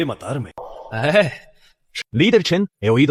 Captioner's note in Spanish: Suspiro